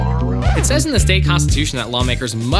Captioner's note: record scratch